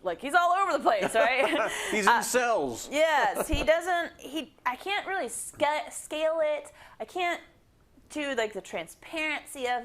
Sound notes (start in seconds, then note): 3.2 laugh